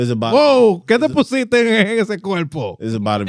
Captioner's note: non-english Speech